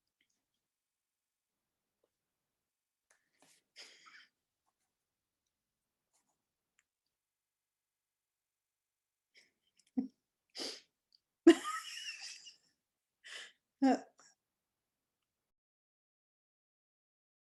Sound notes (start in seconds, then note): 11.5 laughs